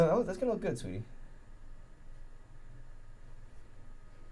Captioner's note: none